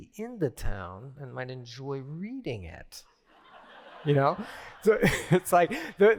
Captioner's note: laughter